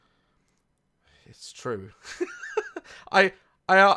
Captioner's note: laughs